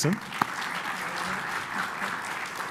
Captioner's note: applause